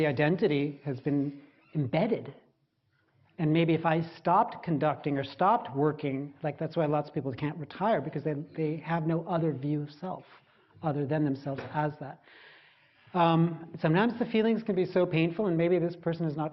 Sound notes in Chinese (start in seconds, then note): none